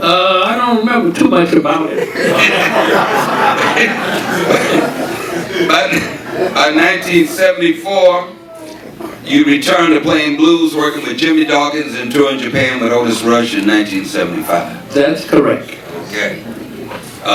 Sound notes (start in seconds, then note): 1.8 audience laughing; 2.0 laughing